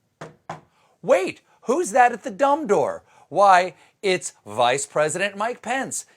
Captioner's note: knocking